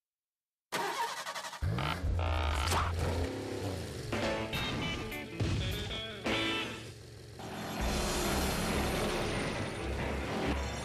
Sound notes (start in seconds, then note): 0.7 engine starting